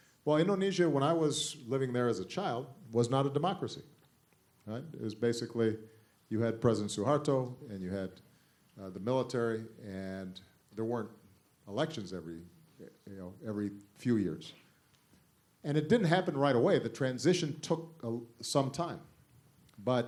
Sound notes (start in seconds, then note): none